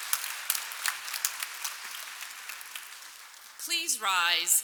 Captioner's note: applause